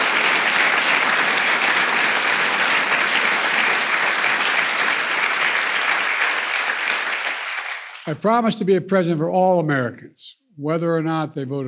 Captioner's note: applause